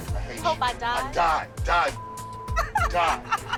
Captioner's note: laughs